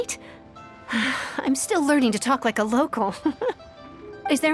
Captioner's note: sigh